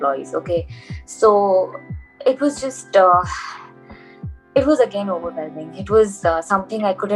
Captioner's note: sighs